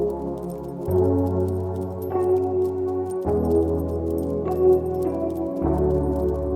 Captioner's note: dog tags jingling; quick footfalls padding